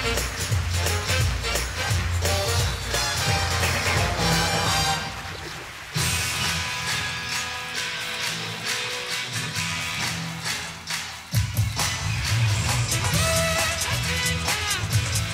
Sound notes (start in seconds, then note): 3.9 applause